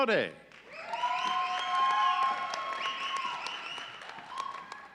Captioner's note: audience cheering